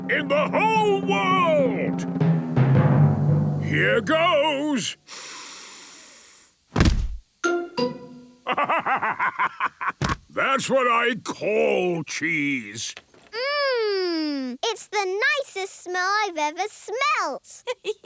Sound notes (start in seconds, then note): 2.4 dramatic drumming music; 5.1 sniffs; 8.4 bursting laughter; 17.6 giggling